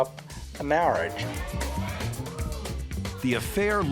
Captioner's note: audience chattering